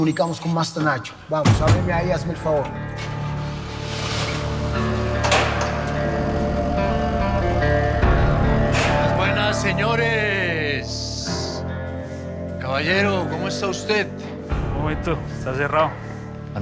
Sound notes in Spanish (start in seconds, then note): 4.8 Sonido al abrir la puerta; 8.4 Ruido del vehículo